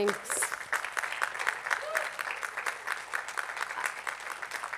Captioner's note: attendees clapping